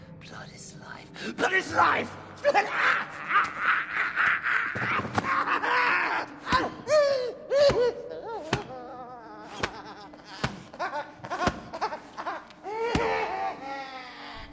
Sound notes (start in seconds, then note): 2.7 Knock wails; 10.1 Knock laughs hysterically